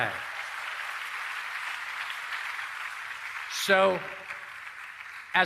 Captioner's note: applause